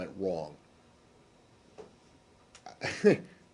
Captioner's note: laughter